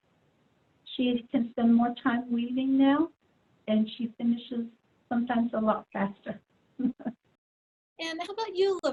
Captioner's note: laughs